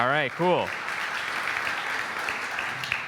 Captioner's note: applause